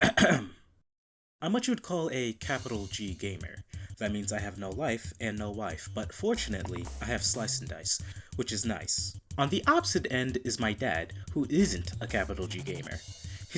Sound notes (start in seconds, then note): 0.0 throat clearing